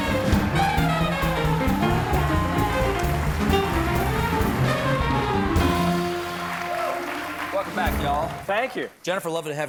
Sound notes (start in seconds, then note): 1.8 applause